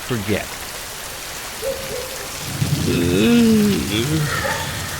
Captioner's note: rain falling